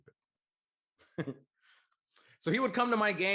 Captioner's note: chuckles